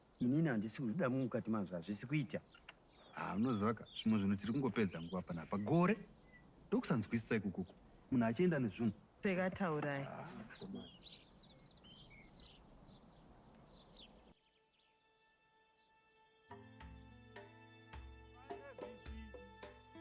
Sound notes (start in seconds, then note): 17.3 birds chirping